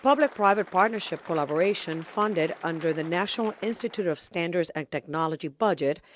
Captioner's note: applause